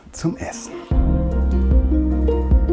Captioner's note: spherical sounds